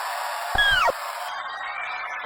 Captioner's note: electronic sliding noise